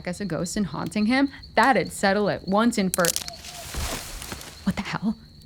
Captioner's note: rustling